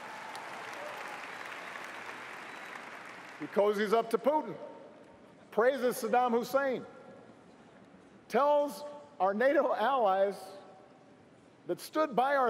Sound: cheers & applause

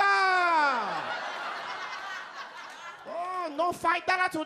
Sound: audience laughs

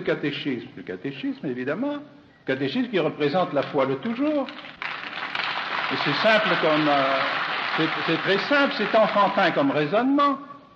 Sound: applause

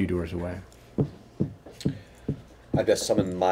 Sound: knocking

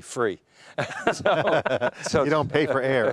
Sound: all laughing

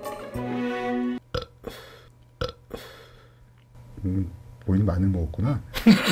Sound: burping; laughing

